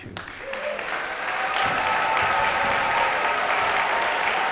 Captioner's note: cheers and applause